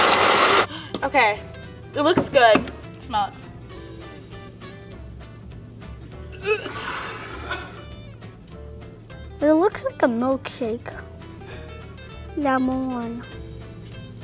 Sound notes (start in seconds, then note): 6.2 gags